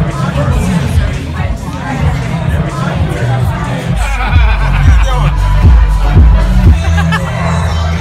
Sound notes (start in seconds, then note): 4.0 jacob laughing; 6.7 hailey laughing